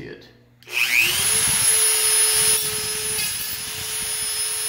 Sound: Dremel hums

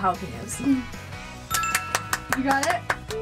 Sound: chime dings

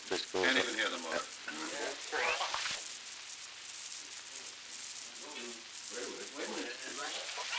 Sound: production chatter

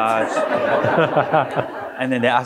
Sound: audience laughing

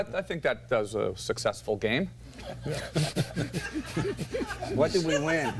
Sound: laughter

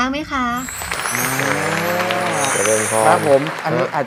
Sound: clapping sound

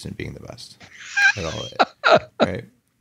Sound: laughs

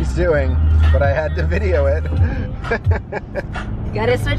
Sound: laughs

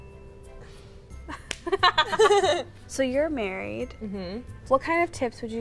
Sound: laughter; hands smack

